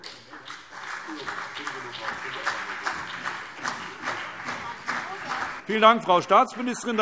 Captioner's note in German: Beifall CDU und BÜNDNIS 90/DIE GRÜNEN